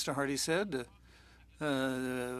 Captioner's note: speaking French